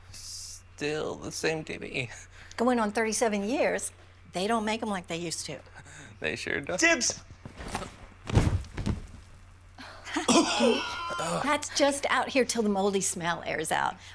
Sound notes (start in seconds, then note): 10.1 coughing; 10.2 laughs